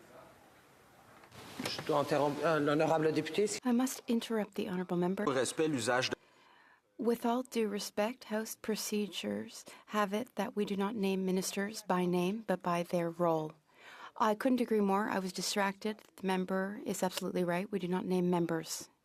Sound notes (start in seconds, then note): 5.9 speaking in French